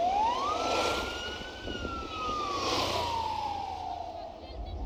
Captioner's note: motorbike passes